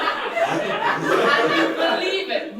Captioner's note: audience laughter